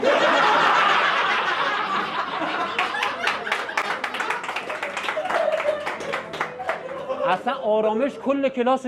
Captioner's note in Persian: خنده